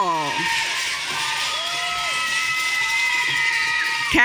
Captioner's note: audience cheering